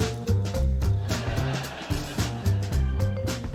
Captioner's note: laughter